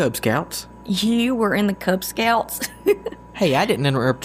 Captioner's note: laughs